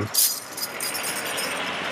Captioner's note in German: Klirren